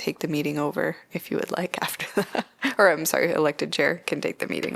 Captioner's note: laughter